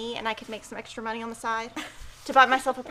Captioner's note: chuckles